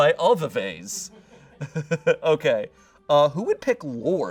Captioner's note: audience laughing